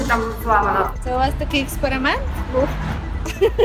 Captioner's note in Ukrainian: Cміх